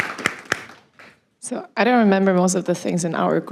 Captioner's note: applause